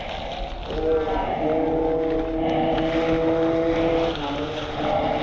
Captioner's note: wincing; engine revving